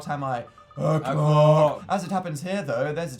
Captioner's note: low voice